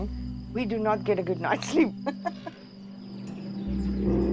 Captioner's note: laughs